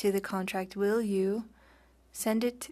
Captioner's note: speaking French